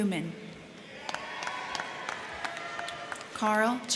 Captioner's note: crowd cheering; crowd clapping